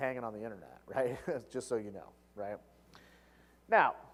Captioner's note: laugh